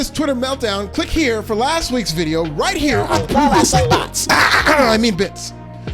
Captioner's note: clears throat